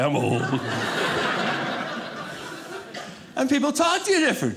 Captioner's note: audience laughing